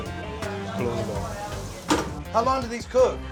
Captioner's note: sizzling